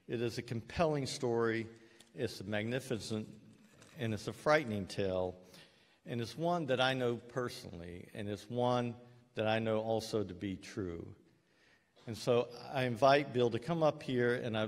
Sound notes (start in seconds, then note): none